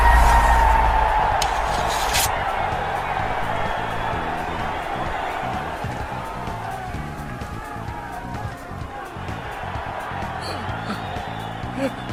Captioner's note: applause